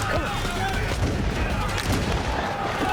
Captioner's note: screaming